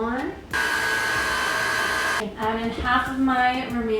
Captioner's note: mixer whirring